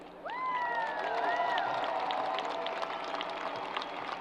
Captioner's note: crowd applause